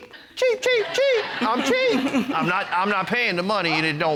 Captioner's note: in high-pitched voice